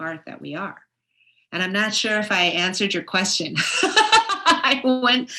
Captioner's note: laughs